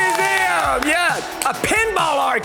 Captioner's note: crowd cheers